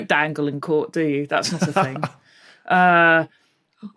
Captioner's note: chuckles